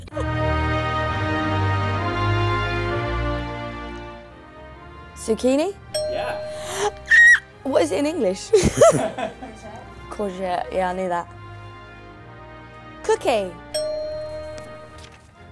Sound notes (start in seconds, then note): 0.0 laughing; 0.2 slow majestic music; 5.9 bell ringing; 13.7 bell ringing